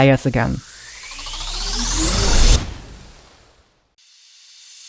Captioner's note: riser sounds